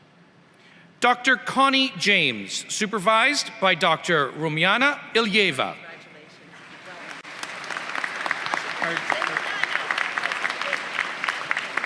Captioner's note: applause